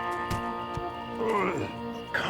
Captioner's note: billy groans